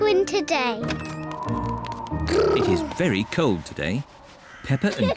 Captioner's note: wind whistles